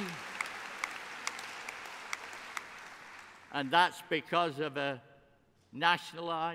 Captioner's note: applause